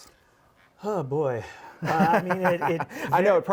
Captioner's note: laughs